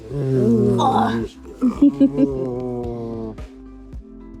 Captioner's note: giggling; laughs